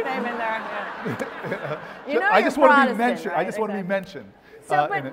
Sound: laugh

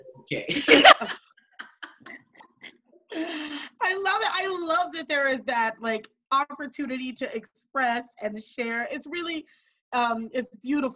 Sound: laughing

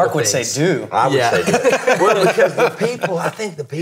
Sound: laughing

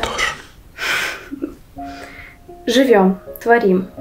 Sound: laughing

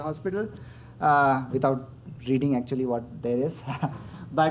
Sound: chuckles

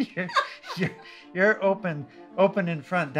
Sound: laughter

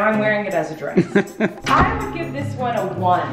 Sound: laughing

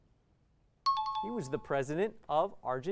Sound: timer bell

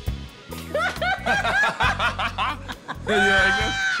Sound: sexy music; both laughing

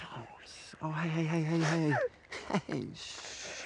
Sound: crying

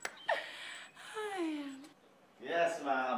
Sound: exhales

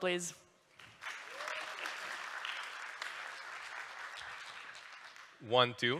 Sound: applause

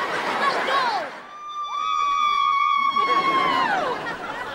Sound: cheering

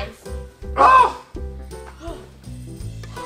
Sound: shark screams; assistant panting

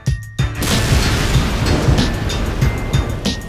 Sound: explosion

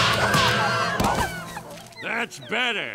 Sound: shrieking; whimpering

